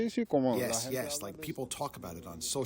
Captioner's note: through translator